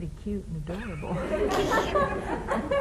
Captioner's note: laughter